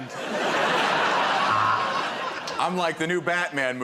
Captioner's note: laughter